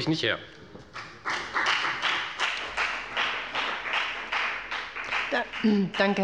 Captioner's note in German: Beifall bei der FDP